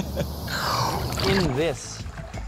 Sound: laughs; inhales deeply

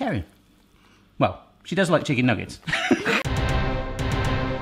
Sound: laughs; dramatic music

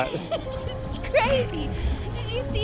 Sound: laughing

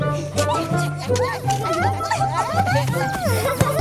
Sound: laughing

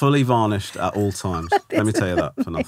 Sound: laughing

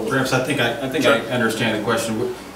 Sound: overlapping chattering

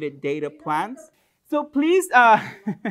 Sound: laughter; chuckles

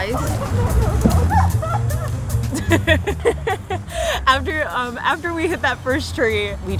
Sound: laugh

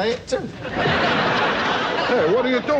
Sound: audience laughs

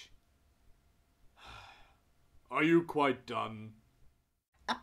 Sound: sigh

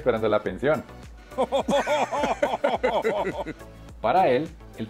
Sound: Laughs in muppet

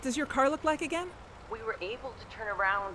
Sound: over speakerphone

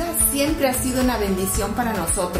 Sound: speaking Spanish together

